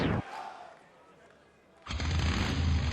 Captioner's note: crowd cheering